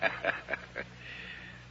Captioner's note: laughs